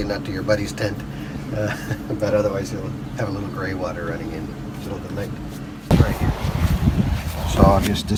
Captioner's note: laughs